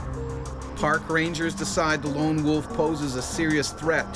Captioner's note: voiceover